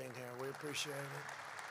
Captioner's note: applause